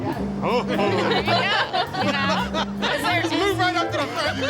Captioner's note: all laugh